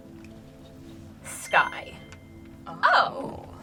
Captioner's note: word twinkles